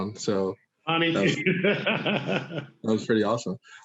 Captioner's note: laughing